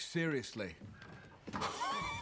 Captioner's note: laughs